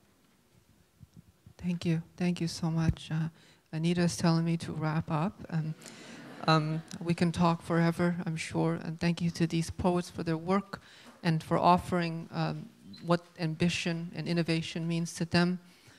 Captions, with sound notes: - Thank you. Thank you so much. Amita's telling me to wrap up. (audience laughs) We can talk forever, I'm sure. And thank you to these poets for their work and for offering what ambition and innovation means to them.